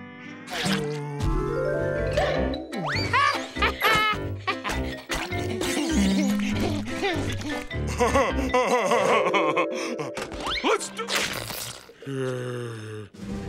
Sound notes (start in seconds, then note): 2.4 laughing; 7.3 laughing